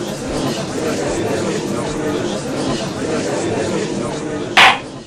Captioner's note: gallery chattering; gavel slams!